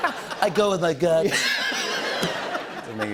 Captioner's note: laughter